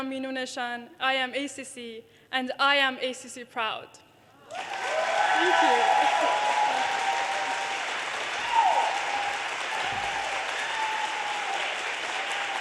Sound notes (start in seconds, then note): 5.0 audience cheers and applause; 10.4 audience cheers and applause